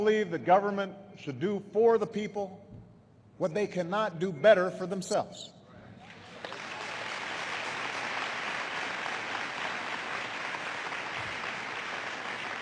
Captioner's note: applause